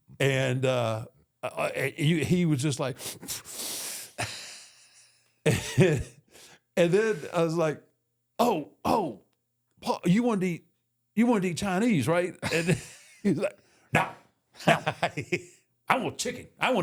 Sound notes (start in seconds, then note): 3.0 The Undertaker breathing heavily; 5.4 Michael laughs; 5.4 The Undertaker laughs